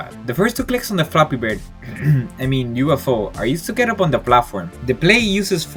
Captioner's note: cough